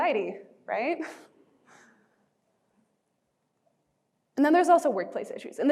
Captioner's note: chuckling